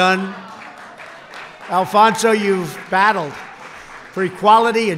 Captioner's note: applause